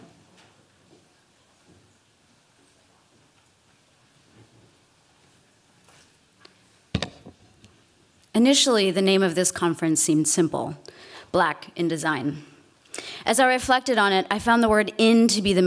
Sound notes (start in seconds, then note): none